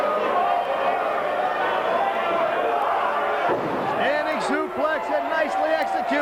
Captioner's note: crowd cheering